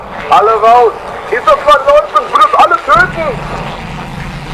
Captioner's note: VON FRIES continues shouting in German